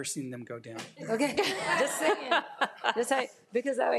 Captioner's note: all laugh